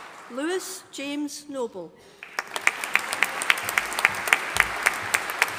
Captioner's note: audience applauding